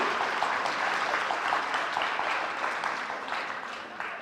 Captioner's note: audience applauding